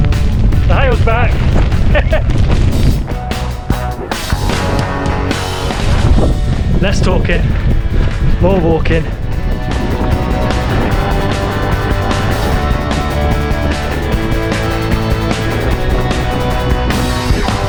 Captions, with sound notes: The hail's back! [laughing] Less talking... more walking.